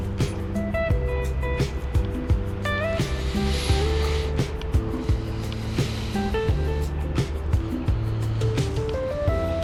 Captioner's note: wind Blowing